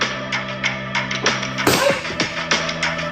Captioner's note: loud pop